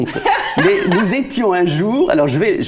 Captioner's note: laughters